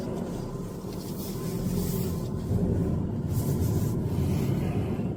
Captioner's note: car engine humming